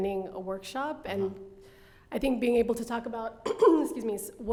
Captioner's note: coughs